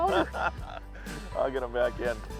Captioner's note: laughs